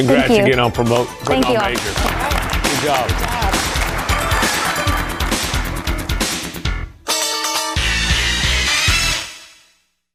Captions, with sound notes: - Thank you. Congrats on getting put on Major. - Thank you. - Good job (audience clapping) (upbeat music)